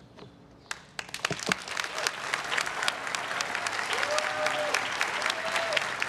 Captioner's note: everyone cheering and applauding